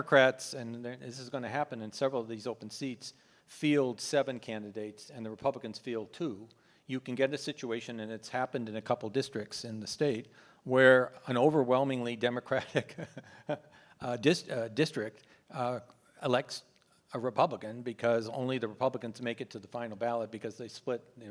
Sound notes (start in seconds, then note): 12.8 laughs